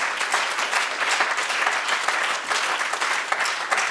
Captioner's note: audience applauds